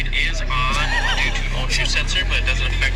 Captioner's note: laughing